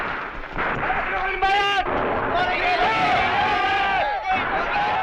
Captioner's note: distant gunfire; non-english shouting